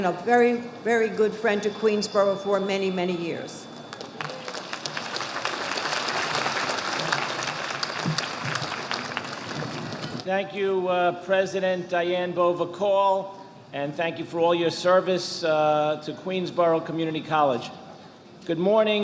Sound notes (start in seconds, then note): 3.8 audience applauding